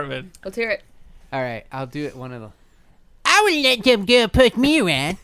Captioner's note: Cartman voice